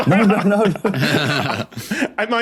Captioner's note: guys laughing; laughs